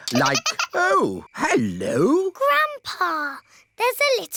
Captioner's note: giggling